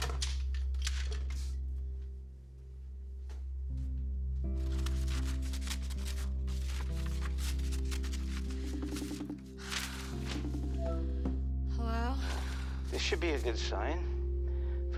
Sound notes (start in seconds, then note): 5.8 soft music continues; 9.1 phone ringing